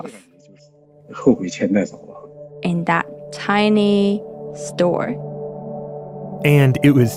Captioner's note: speaking Mandarin Chinese